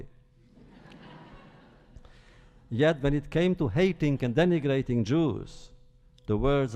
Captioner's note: laughter